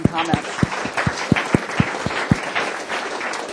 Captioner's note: applause